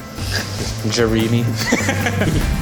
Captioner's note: laughs